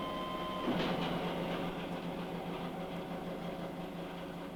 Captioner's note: soft clattering sound